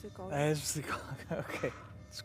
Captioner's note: laughs